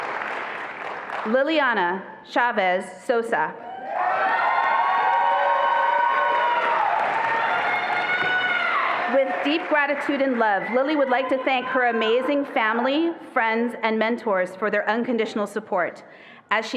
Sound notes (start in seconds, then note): 3.7 attendees applauding and cheering